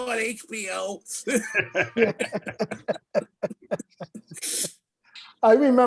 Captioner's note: laughs